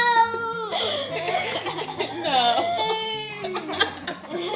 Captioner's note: laughing